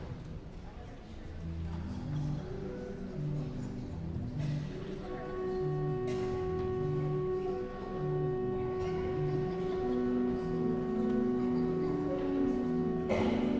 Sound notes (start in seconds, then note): 1.0 guests chattering; 4.7 elegant music